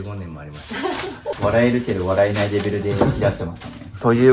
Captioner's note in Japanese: 笑い